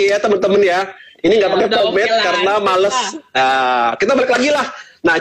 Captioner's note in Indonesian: Tertawa